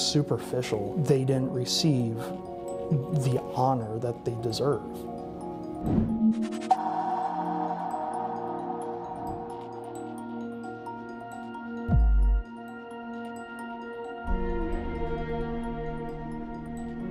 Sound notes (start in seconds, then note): 6.4 gong